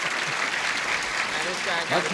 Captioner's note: applause